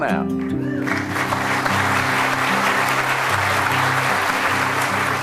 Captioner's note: audience applauding